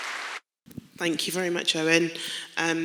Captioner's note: clapping